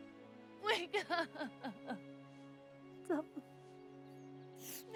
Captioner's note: Masie crying